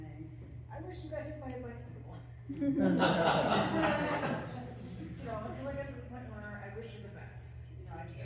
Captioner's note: laughter